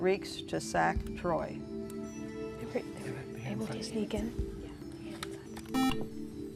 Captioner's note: whispering